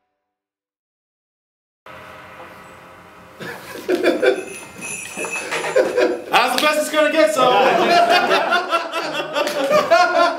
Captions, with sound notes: (laughter) - That's the best it's gonna get, so. (laughter)